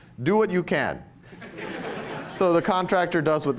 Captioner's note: laughter